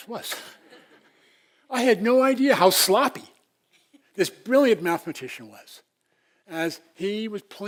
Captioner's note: laugh